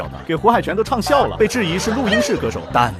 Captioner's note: laughs